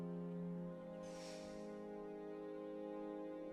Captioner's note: sighs